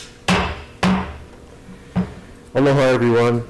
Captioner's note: gavel bangs